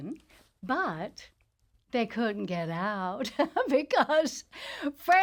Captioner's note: laughs